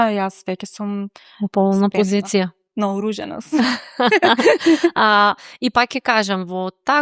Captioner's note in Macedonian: смеа